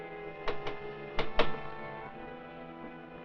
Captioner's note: knock at door